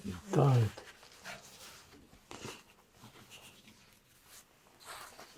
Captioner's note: pauses 19 seconds